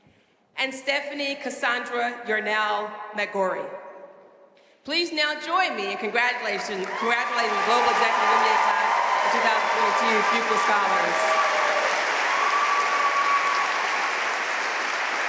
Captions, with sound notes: And Stephanie Cassandra Yarnell-Mac Grory. Please now join me in congratulations. (audience cheering and applauding) (speaking faintly)